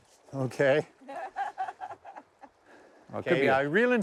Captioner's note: laughing